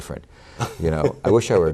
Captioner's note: laughter